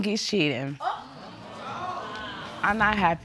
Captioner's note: audience exclaiming